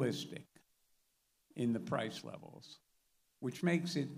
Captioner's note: none